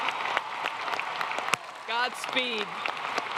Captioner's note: applause